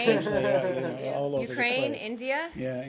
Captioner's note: laughter